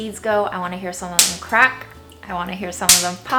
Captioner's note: seed pops